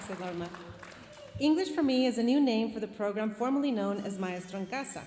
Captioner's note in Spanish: hablando en inglés